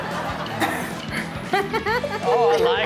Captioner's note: audience laughs; speaker In Video laughs